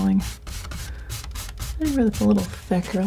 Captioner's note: scratching